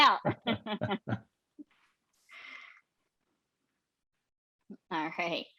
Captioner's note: laughing